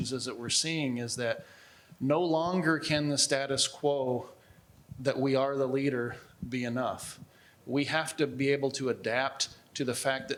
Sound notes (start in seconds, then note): none